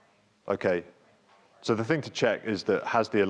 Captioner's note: speaks faintly